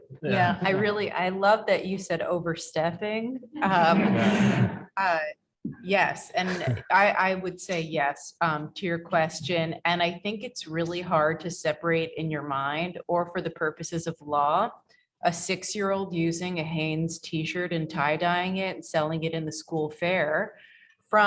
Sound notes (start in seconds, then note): 3.8 audience laughs